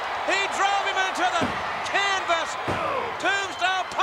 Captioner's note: fist pounding